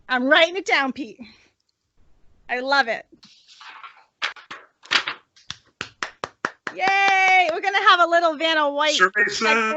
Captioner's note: Clapping - Vanna White - Survery Says